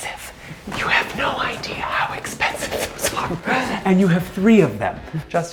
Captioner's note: laughs nervously